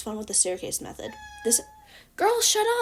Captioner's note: Scarlett meow